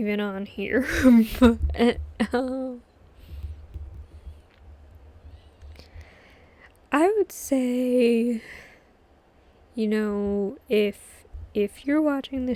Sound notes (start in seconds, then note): 0.8 laughs